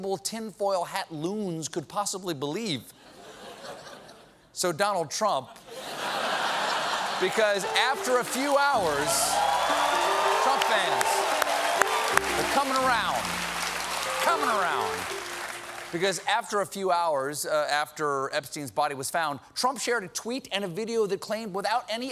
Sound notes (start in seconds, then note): 4.9 laughter; 4.9 piano riff; 6.8 cheers and applause